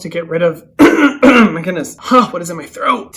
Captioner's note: coughing